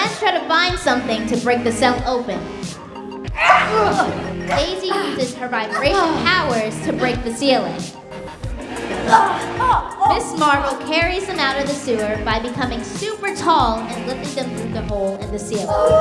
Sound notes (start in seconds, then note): 9.3 grunting